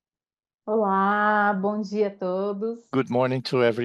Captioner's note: speaks in Portuguese